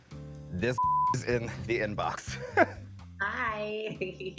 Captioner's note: beep; laughs